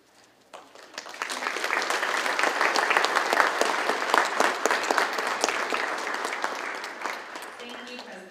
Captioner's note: applause